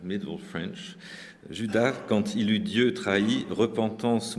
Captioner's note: speaking french